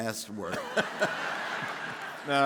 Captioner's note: laughing; audience laughing